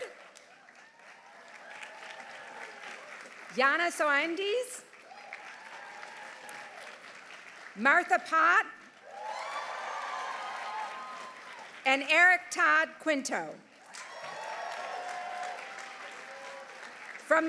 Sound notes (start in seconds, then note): 0.0 audience applauding; 0.4 audience cheering; 4.8 audience applauding; 5.0 audience cheering; 8.8 audience applauding; 9.0 audience cheering; 13.8 audience applauding; 13.9 audience cheering